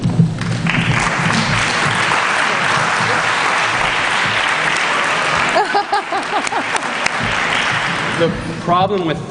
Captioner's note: applause